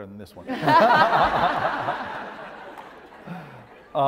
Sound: laugh

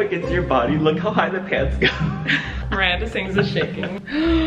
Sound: laughing

